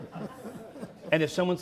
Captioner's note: crowd laughing